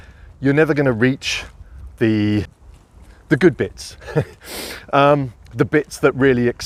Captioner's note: chuckling